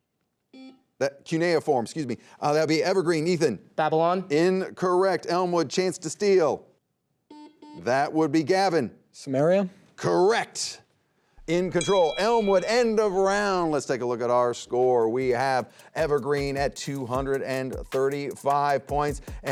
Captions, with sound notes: Cuneiform, excuse me. That will be Evergreen, Ethan. - Babylon. - Incorrect. Elmwood, chance to steal. (buzzer beeps) That would be Gavin. - Sumeria. - Correct. In control, Elmwood, end of round. Let's take a look at our score. We have Evergreen at 235 points